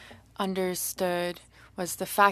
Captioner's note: speaking French